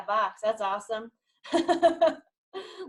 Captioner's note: chuckles